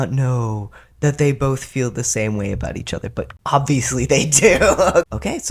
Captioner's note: laughter